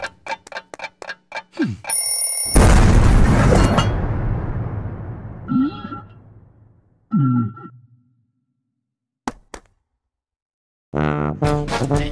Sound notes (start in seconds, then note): 1.9 ding; 5.4 silly Noises